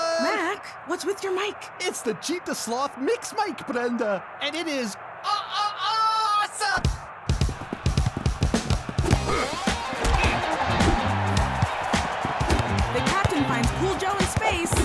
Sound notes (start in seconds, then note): 4.8 electronic voice effect; 7.3 funky music; 9.2 grunting; 10.2 crowd cheering